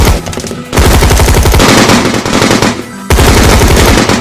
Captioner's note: guns shoot